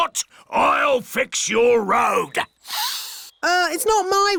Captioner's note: sniffs